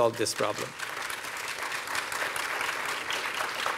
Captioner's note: applause